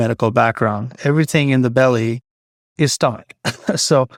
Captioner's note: chuckles